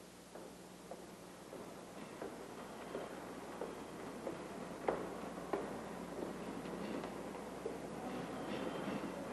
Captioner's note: Eva's footsteps